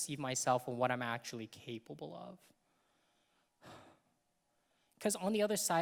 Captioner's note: exhales loudly